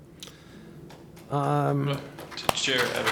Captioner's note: applause